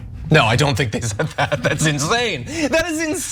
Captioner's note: laugh